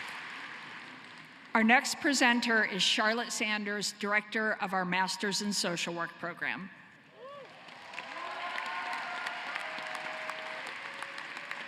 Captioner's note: cheering and applause